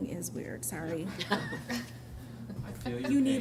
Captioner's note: laughter